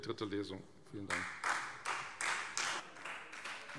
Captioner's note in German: Beifall Freie Demokraten